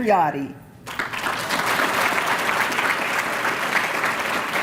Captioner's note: applause